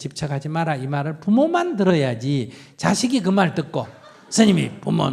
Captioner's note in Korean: 청중 웃음